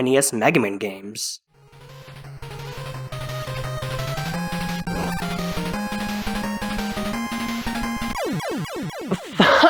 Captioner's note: game sounds, wily getting defeated, that jazz